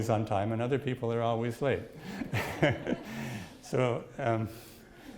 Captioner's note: chuckles